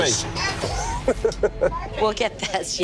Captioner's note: laughing